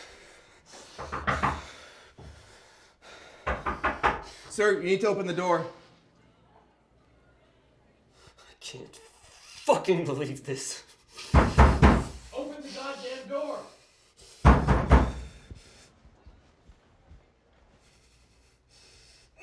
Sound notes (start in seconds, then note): 0.9 loud knocking; 11.3 loud pounding; 14.4 loud pounding